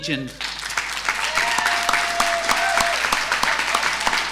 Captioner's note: audience applauding